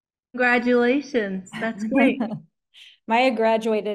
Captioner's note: chuckles